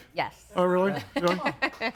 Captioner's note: laughs